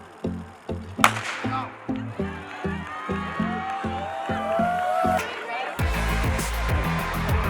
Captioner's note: gun fires; upbeat music continues